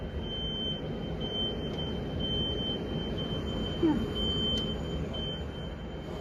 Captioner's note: traffic Noise